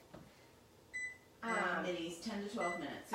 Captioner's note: beeping